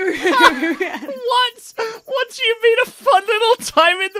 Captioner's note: laughs